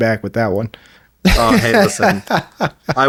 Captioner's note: laughing